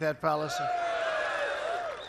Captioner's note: applause